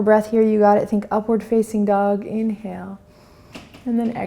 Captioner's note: inhales